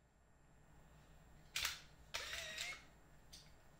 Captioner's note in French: bruit de photo